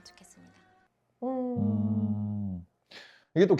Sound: hum in agreement

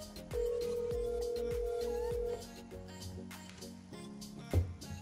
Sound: phone ringing

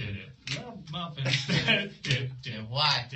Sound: laughs

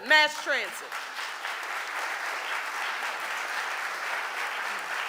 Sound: audience applauding

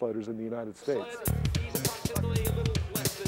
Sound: voiceover

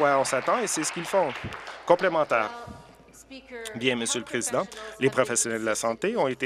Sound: applause

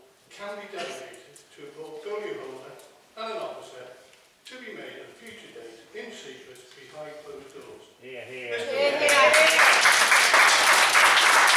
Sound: shouts of hear, hear and applause

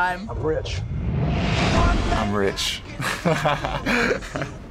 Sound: laughs

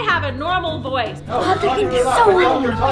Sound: parents continue talking loudly

